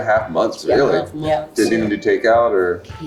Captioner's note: group affirming